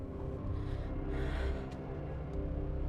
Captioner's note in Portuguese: suspiro